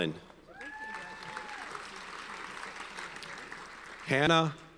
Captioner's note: audience cheers and applauds